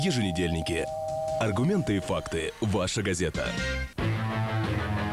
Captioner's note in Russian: дверной звонок